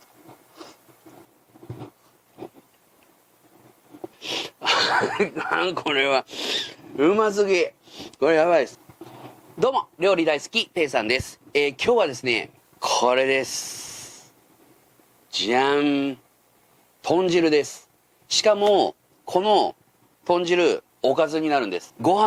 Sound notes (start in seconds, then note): 7.5 laughs